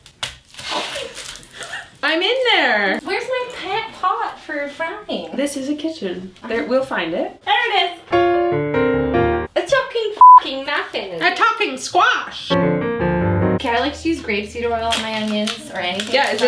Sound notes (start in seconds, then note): 1.6 laughs; 8.0 piano music; 12.5 piano music